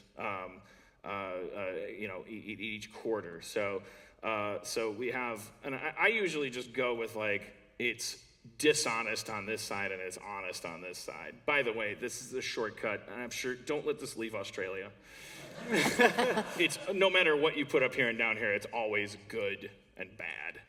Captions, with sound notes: You know, each quarter. So, we have -- and I usually just go with like it's dishonest on this side and it's honest on this side. By the way, this is a shortcut, and I'm sure -- don't let this leave Australia [laughter]. It's -- no matter what you put up here and down here, it's always good and bad.